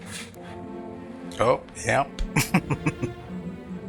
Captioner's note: chuckling